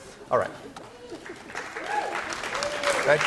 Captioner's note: applause